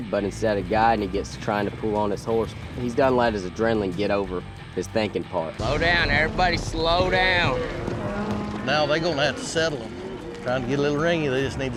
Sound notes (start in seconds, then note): 7.4 cows mooing